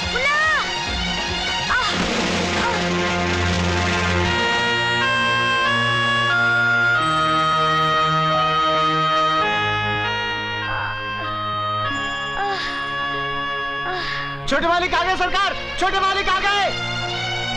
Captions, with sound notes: Munna! (Groans) Junior has come, sir!